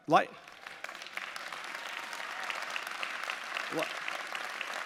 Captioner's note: audience applauding